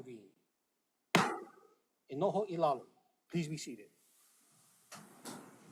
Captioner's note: gavel bangs once